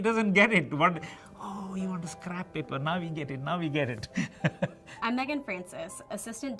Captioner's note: laughs